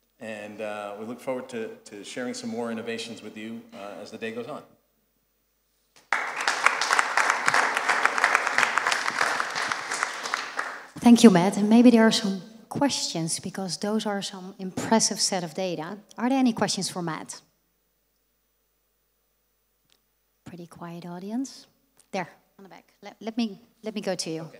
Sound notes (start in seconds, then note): 6.0 applause